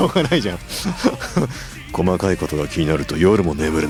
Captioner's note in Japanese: 笑い